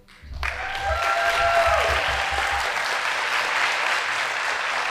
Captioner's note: audience applauding